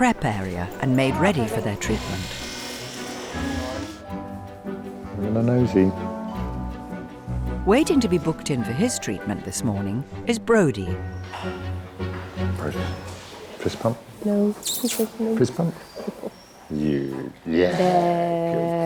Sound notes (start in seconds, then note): 1.4 razor buzzing; 6.3 gentle upbeat music